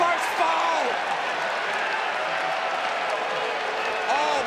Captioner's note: crowd cheering